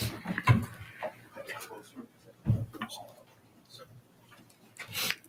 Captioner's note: members chatting